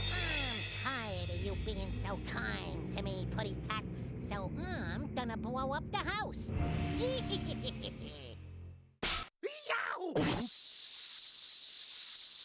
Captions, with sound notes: I'M TIRED OF YOU BEING SO KIND TO ME, PUSSYCAT. SO I'M GONNA BLOW UP THE HOUSE. [laughing maliciously] [snapping] YOW!